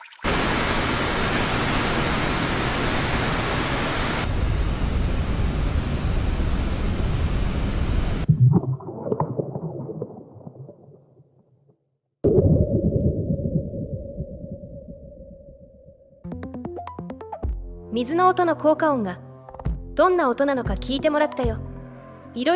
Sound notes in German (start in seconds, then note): 2.7 Wasserfallgeräusch; 10.0 Unterwassergeräusch